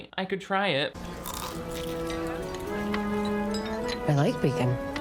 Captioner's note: bacon crunching